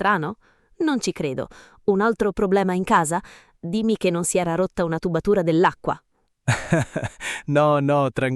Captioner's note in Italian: risate